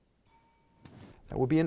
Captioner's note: bell rings